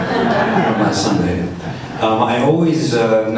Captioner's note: audience laughs